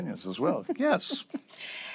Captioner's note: chuckles